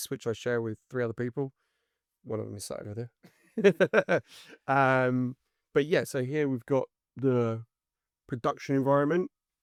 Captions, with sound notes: which I share with three other people. One of them is sat over there. (laughs) But yeah, so here we've got the production environment.